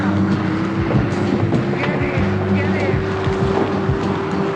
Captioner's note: birds flying